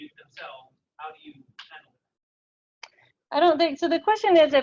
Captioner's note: audio drops